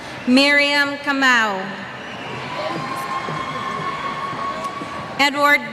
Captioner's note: cheers